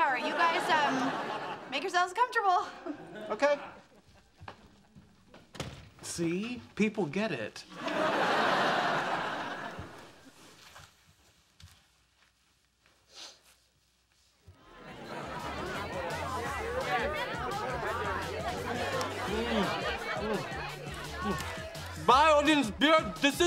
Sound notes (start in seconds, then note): 14.6 party goers chatting; 14.8 upbeat music